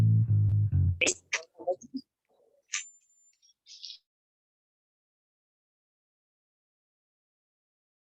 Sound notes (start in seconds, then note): 1.1 faintly speaking